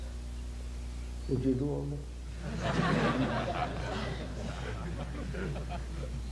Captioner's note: laughter